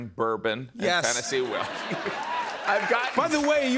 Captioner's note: cheers and applause